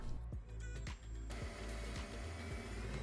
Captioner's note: drilling